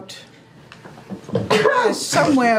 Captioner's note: breaks a rib sneezing in the background